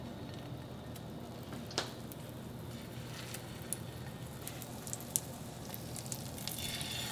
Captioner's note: sizzling